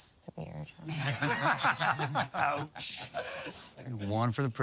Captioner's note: laughter